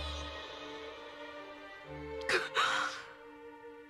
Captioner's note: sobs